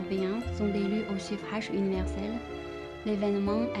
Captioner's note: French